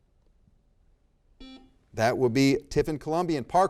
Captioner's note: buzzer beeps